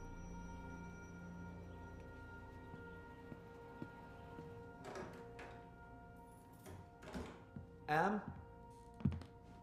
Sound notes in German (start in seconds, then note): 4.6 tür wird geöffnet, schlüsselklimpern, tür wird geschlossen